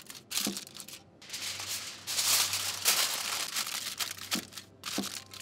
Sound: foil crinkling

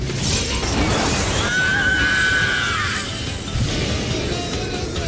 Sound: Scream from the C Alliance

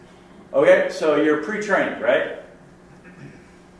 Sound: voiceover

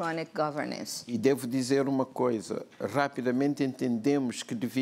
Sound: speaking portuguese

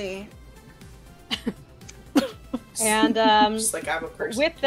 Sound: laughter

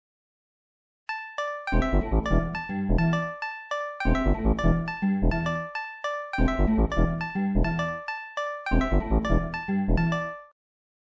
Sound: sound of pixel dungeon

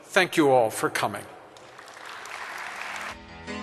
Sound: audience applause

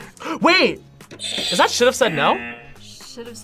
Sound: buzzer rings

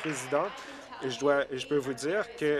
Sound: applause

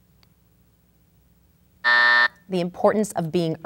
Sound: buzz

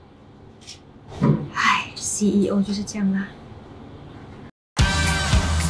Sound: in Mandarin

